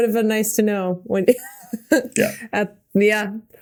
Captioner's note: Mikaela laughing